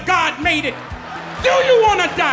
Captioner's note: audience laughing